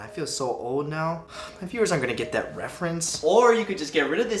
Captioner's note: sighing